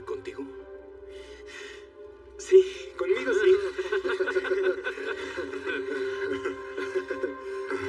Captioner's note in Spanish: Ríe